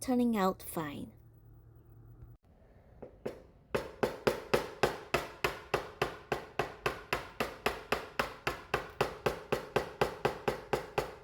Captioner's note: hammering sounds